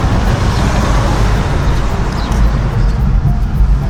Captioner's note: car sounds